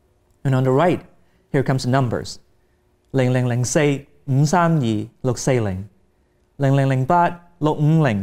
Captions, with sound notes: And on the right, here comes the numbers. (speaking in Cantonese)